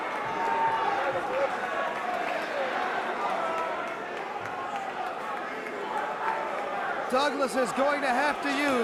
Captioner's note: crowd cheering